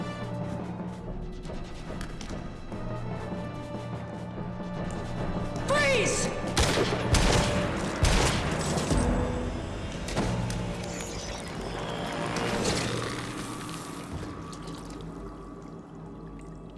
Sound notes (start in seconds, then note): 0.3 suspenseful music; 6.5 gunshots banging; 13.4 liquid splashing